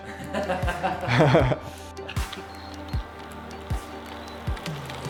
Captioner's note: cameraman and laughing